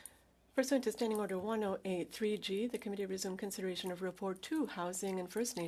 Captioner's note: speaking French